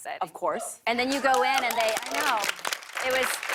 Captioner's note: cheers and applause